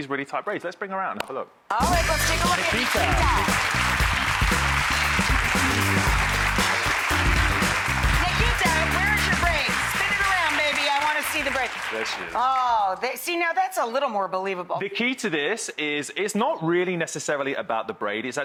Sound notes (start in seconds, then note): 3.6 audience applause; 3.6 upbeat jazz music